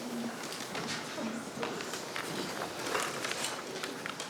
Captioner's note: quiet talking